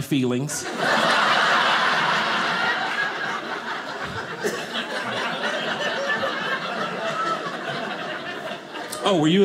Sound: audience laughing

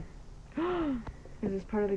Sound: Alexie gasps

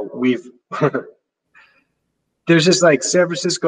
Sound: chuckles

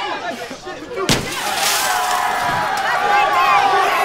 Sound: all cheering

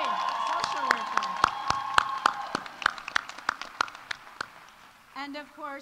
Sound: audience cheering; audience applauding

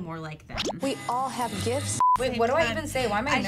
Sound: screen beeps

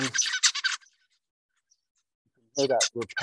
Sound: bird singing

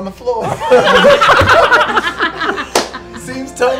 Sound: laughter

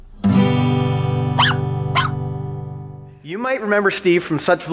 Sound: guitar chord; dog barking

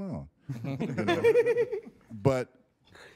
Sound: all laughing

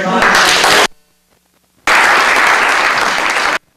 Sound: applause

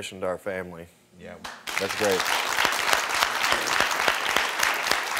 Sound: audience applauding

